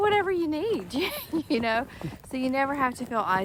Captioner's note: laughs